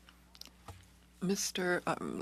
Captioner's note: speaking in French